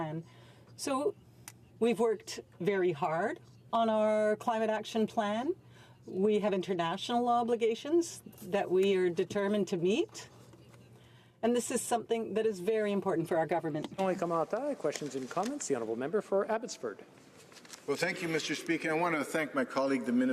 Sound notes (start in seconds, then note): none